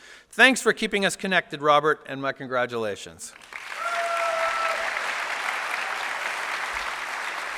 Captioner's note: applause